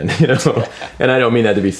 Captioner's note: laughs